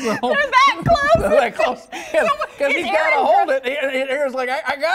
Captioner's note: laughter